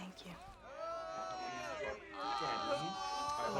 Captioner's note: party-goers cat-calling